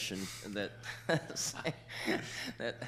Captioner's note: chuckling